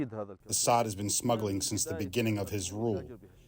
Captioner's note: through translator